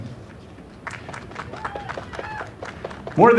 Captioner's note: applause